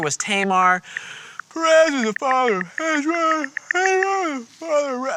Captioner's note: mumbling and yawning